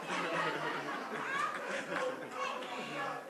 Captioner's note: laughter